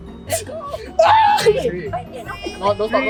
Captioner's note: squawks